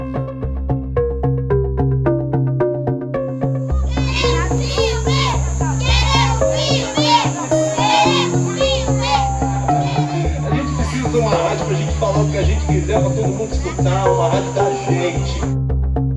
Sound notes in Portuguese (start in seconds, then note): 3.8 Crianças gritam em grupo